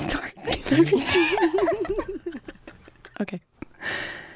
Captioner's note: laughs